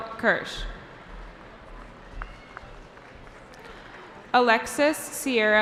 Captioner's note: cheering